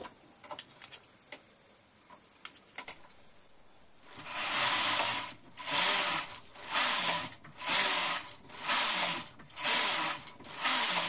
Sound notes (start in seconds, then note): 4.1 sound of knitting machine